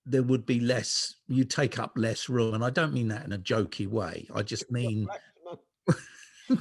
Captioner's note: giggling and laughter